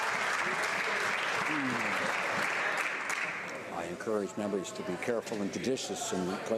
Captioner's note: some Applause